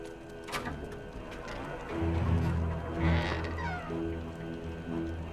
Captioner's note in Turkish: Kapı Sesi